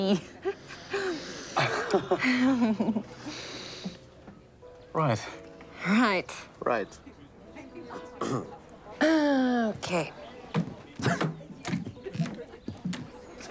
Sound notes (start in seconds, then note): 1.6 awkward laughter; 8.2 John clears throat